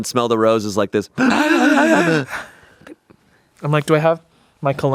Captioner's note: everyone inhales